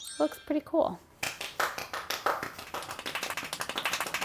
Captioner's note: clapping